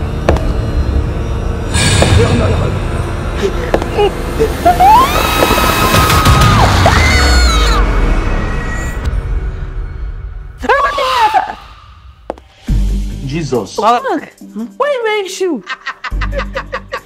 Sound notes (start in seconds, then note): 4.7 Emmanuella screams in fright